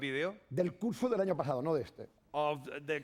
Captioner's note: speaking spanish